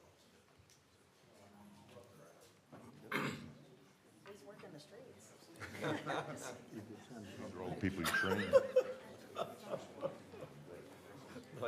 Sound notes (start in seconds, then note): 7.9 laughter